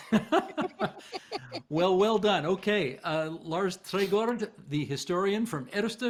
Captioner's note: laughter